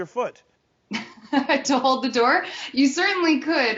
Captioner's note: laughing